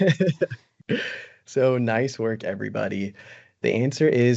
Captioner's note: brief laughter